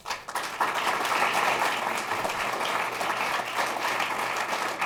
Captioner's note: applause